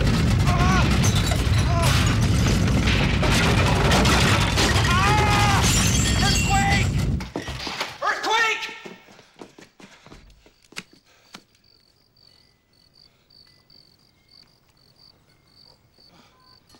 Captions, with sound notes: ( screams ) earthquake! Earthquake!